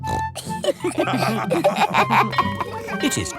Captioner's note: snorts; all laughing; school bell ringing